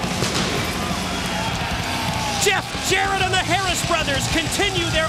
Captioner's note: crowd cheering